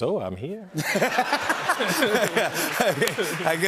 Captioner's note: laughter